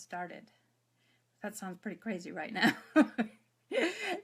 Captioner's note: laughs